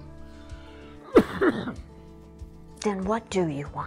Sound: coughs

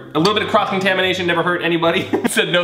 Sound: laughing

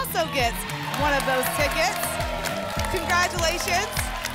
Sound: applause and cheering

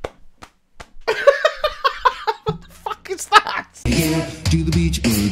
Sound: laughs

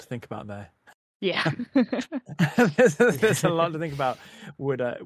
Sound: laughing

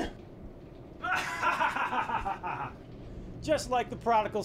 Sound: maniacal laughter

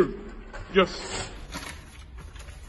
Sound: paper rustling

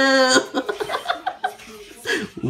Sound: laught

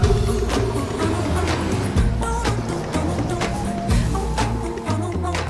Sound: whooshing

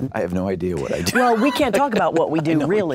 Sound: laughs

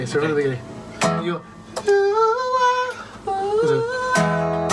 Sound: sings part; echoes

